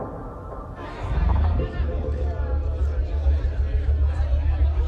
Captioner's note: crowd clamoring